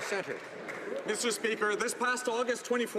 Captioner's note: some Applause